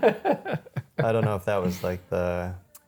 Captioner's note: both laughing